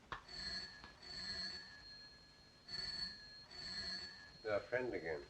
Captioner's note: phone ringing